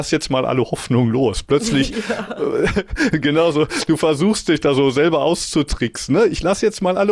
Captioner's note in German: gelächter